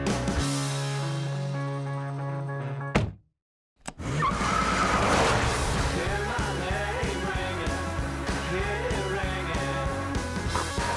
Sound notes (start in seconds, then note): 3.0 door slamming; 4.0 tires squealing